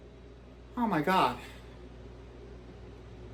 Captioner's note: gasps